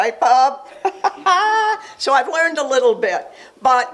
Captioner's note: chuckles